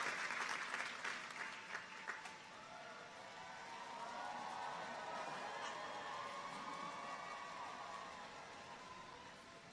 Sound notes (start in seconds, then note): 5.0 people cheer distantly